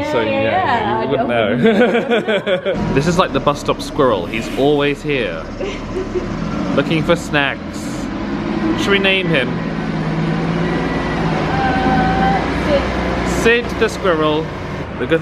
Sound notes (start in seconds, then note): 5.5 chuckling; 10.2 bus engine whirring